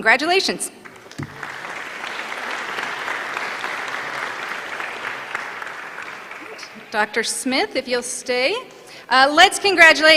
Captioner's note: applause